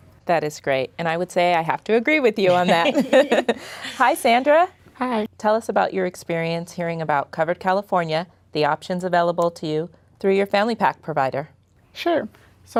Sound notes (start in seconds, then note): 2.5 laughing